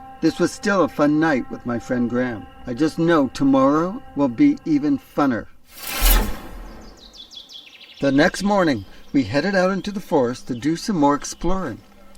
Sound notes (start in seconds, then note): 5.7 dramatic music; 5.8 birds chirping